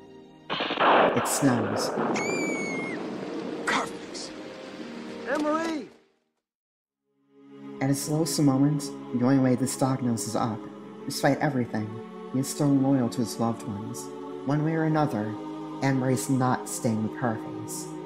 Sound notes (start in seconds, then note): 0.5 thunderclap SFX; 2.1 Anne-Marie shrieks